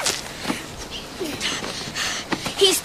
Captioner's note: grunting